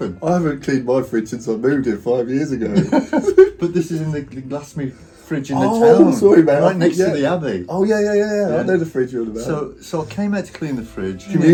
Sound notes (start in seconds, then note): 2.7 both laughing